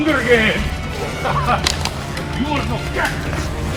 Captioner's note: Massai laughs